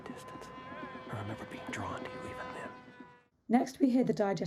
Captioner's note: plane sound